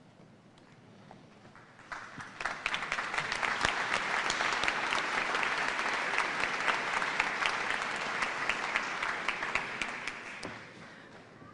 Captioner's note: applause